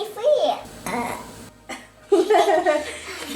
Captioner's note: burps